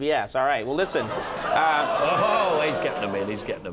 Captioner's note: laugher